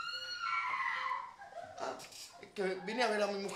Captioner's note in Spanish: LA MUJER GRlTA